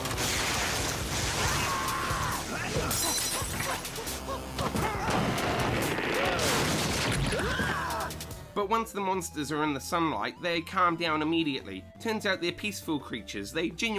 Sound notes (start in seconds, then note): 1.4 everyone Screaming